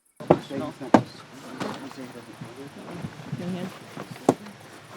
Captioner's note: crickets chirping; people chattering